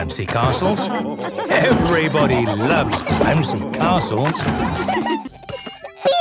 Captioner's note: laughter